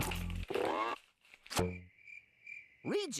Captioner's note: crickets chirping